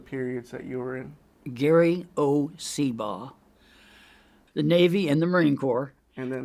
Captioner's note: inhales